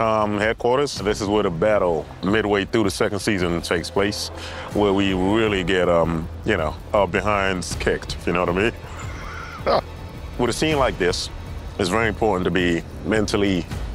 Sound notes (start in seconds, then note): 8.8 laughing